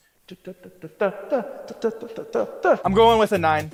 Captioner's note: man vocalizing